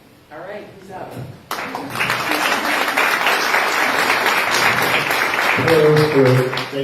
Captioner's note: applause